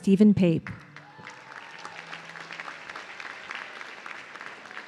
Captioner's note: audience cheering